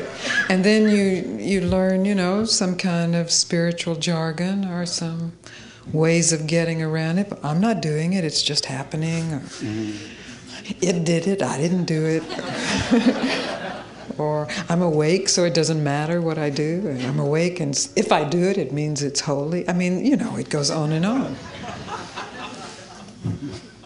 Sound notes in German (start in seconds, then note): 12.2 Menge lacht; 21.3 Leute lachen